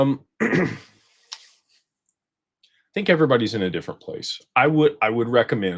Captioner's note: clears throat